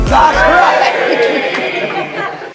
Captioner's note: cheers